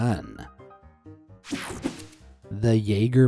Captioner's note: screen whooshing